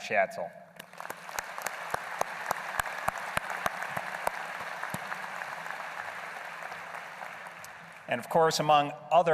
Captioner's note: applause